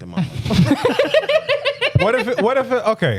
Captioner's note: laughing